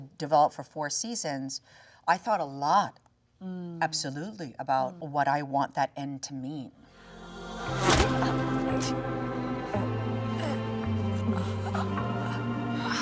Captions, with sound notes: develop for four seasons, I thought a lot, absolutely. About what I want that end to mean. (sad music) (Both breathing heavily)